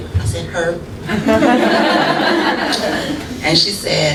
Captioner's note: laughter